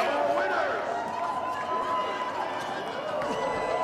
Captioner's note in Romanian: Aplauze